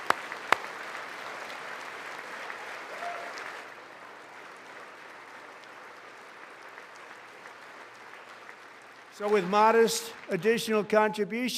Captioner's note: applause